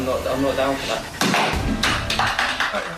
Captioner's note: whacking